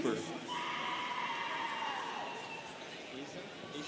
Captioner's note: students cheering